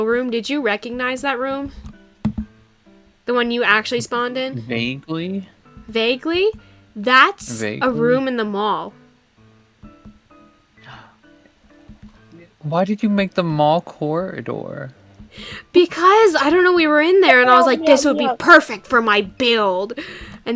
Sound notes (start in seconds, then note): 9.8 quiet gasp